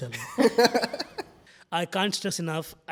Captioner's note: laughs